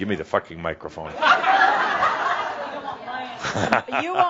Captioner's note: laughter